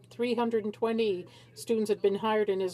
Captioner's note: speaking French